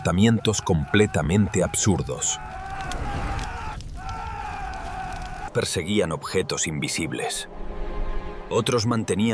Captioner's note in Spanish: grito; gemido